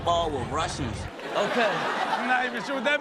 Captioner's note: all laugh